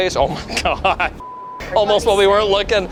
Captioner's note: beep